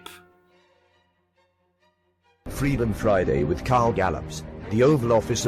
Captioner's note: voiceover